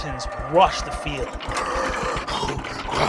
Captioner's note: chains rattle